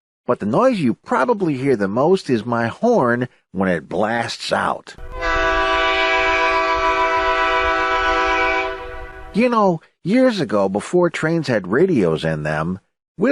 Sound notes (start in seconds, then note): 5.0 horn blasts